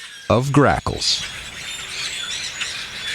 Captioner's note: SFX: Grackles